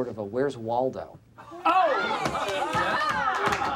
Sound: cheering; applause

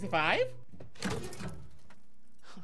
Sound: safe door creaking

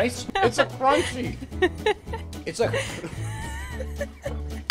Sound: laughing

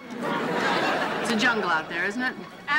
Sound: audience laughing

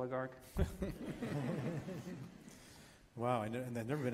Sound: laughs

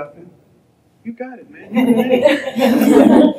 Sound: laughter

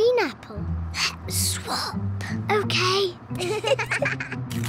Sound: whispering; both giggle

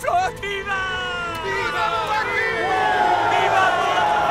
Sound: man cheers; men cheer

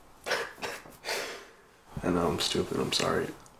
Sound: Eddie chuckles

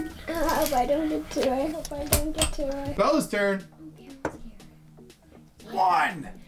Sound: none

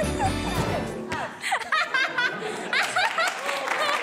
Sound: Vanessa laughing; people clapping

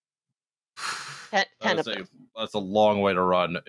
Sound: breathes out audibly

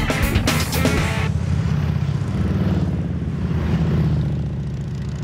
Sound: engines roaring

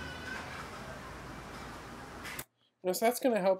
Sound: man faintly shouting

